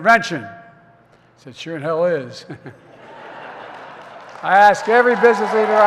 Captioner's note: laughter and applause